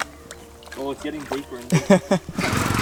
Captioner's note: laughs